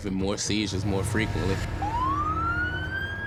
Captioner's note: siren wailing